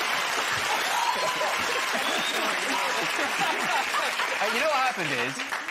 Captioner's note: cheers and applause